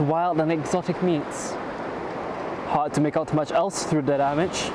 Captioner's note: none